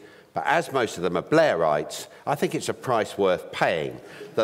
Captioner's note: none